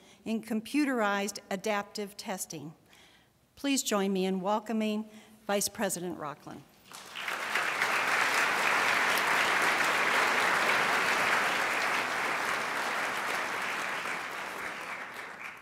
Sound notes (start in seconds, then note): 7.0 crowd applauds